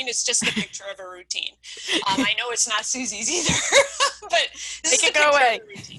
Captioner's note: laughing